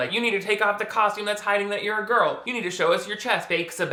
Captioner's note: none